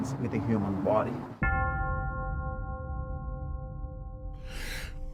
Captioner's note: bell ringing